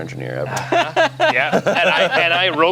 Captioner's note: laughs